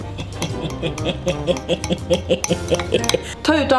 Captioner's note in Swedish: skrattar